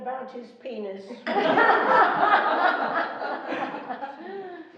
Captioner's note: laughing